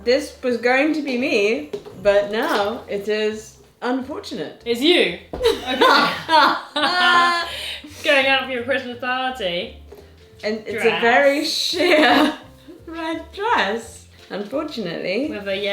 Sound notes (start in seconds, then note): 5.4 both laugh